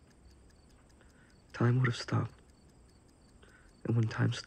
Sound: clock ticking

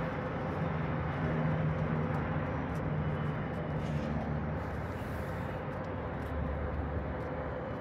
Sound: propeller airplane overhead

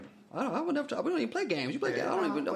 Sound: stammers

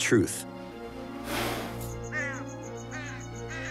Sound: bird cawing

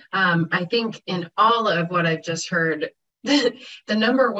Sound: chuckles

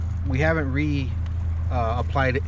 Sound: boat engine idling

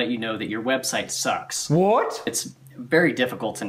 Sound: with mouth full

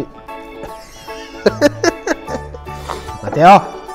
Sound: laughs

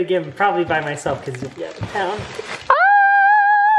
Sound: screaming

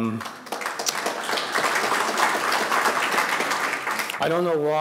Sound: audience applauding

